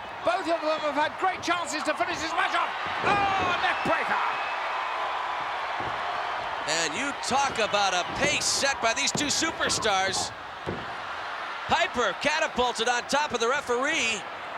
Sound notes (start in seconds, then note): 4.5 crowd roaring